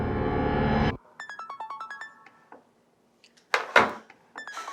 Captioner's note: phone ringing